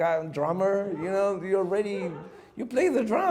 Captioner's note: audience chuckles